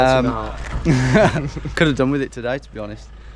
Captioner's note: both laugh